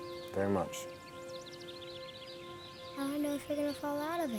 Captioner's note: birds chirping